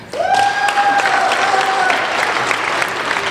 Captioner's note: applauding